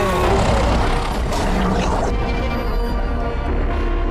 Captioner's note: monster growling; blow thudding; cheerful 1920's music; soft ominous music